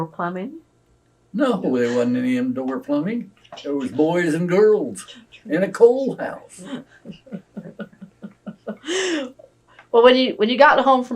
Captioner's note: laughter